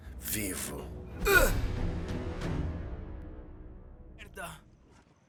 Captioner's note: punch thudding